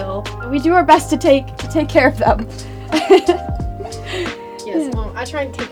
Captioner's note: chuckles